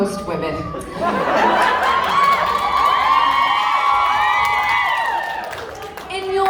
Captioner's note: women cheer